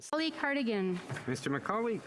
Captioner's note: speaking French